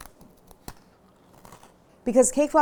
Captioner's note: crunching